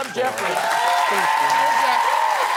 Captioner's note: applause